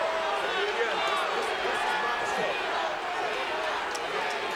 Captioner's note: crowd clamoring